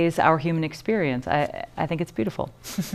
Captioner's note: laughter